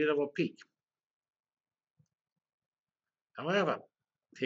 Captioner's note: pause